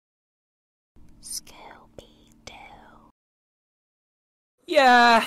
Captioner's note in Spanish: susurra